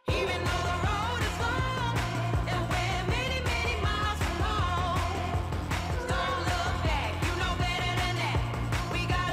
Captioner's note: applause